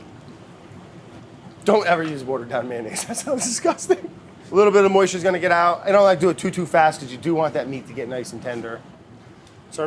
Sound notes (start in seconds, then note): 2.8 laughs